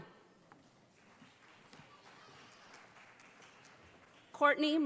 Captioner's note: audience applauding